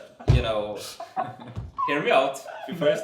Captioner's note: continues laughing